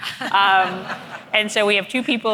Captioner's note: audience laughing